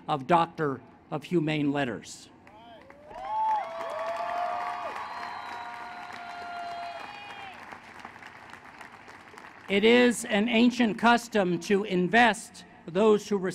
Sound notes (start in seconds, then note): 2.4 applause